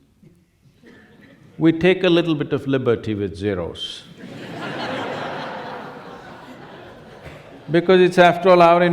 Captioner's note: laughter